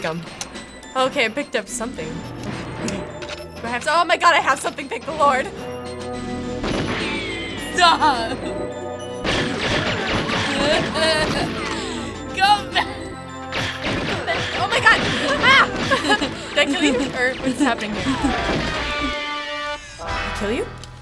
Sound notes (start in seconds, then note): 3.0 gun cocking; 6.3 gunshot; 9.2 gunfire; 9.9 laughing; 13.8 giggles; 18.5 theme music